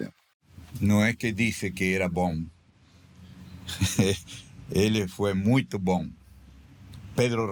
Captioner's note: laughing